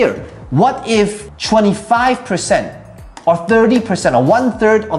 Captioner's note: tapping marker